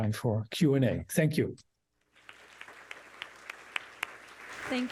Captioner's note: applause